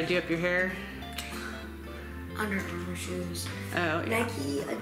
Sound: sighs

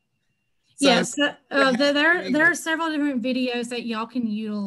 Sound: laugh

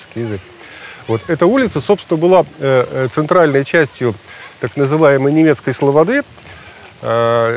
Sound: foreign

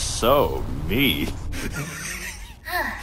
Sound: chuckle

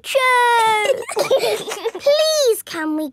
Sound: giggling

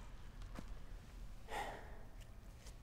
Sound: sighs

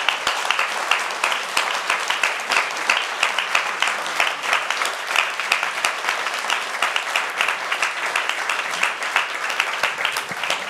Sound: applause

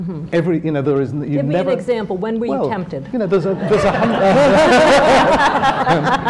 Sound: laughter

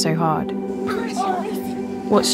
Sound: boys fighting

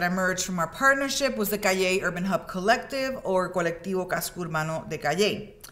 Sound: speaks in Spanish

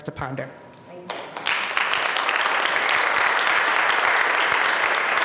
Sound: applause

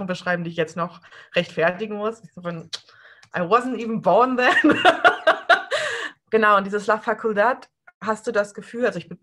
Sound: laughs

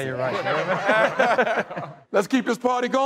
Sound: laughter

